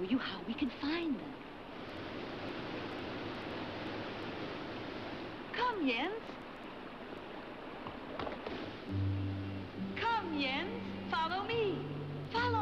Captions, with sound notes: (water roars) Come, Jens. (hooves clopping) (mellow string music) Come, Jens, follow me. Follow me to Bird Mountain,